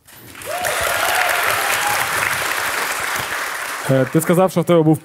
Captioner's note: the audience cheers